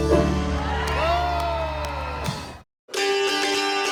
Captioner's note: people cheer; lively dulcimer music